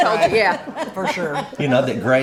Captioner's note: laughs